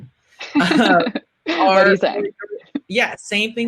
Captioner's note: laughing